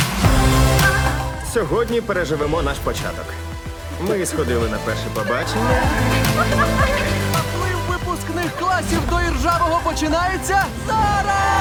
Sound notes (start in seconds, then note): 6.2 laughter